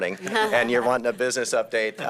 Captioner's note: laughter